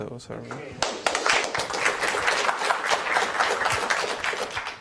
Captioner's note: applause